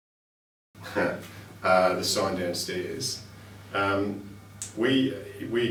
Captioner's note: laughs